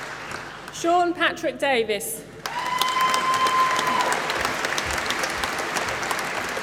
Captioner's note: applause